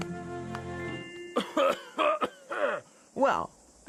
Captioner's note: rabbit Coughing